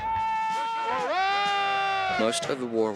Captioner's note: men shouting